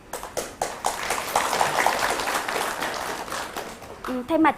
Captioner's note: applause